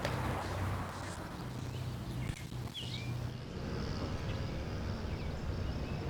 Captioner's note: birds chirping